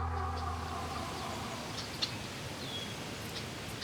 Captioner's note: birds chirping